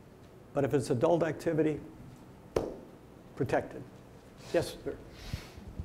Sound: claps hands

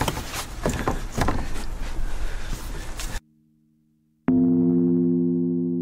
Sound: door clattering; brooding music

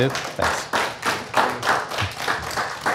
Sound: applause

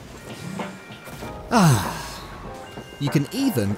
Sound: another deep breath

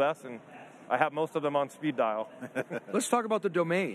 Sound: laughs

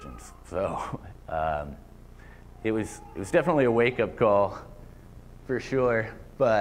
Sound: laughter

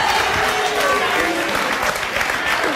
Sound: audience jeers

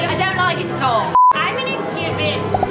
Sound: beep

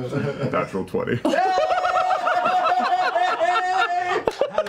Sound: cheering; laughter

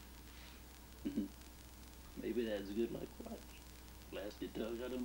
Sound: chuckles

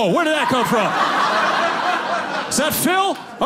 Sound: audience laughing

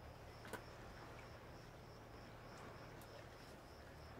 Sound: water lapping

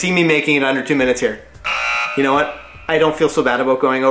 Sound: buzzer

